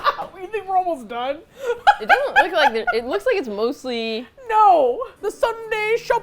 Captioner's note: laughs; laughs